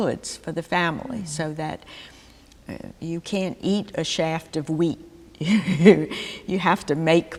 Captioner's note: laughter